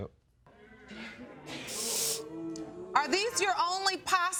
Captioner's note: audience booing